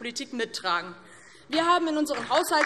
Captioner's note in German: Beifall DIE LINKE